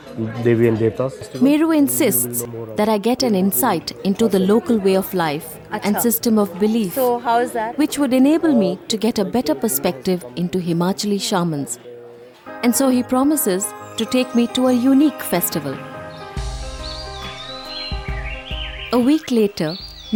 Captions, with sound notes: Devis and Devtas. Meru insists that I get an insight into the local way of life and system of belief, so how's that which would enable me to get a better perspective into Himachali Shamans. And so, he promises to take me to a unique festival. (soft music) (birds chirpping) A week later,